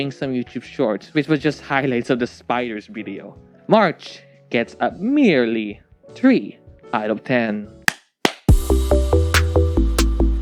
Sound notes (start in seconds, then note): 8.2 claps